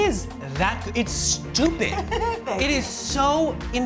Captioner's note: laughing